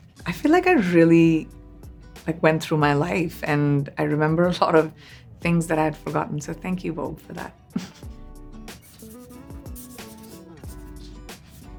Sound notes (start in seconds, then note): 8.7 pen scratches